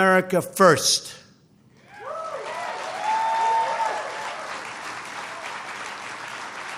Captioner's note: applause